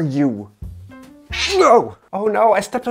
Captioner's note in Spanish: chillidos de gato